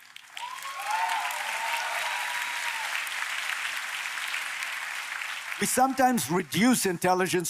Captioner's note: applause